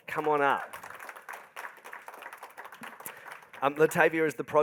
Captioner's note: crowd applauding